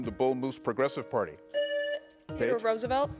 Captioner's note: buzzer rings